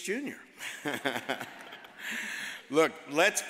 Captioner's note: all laugh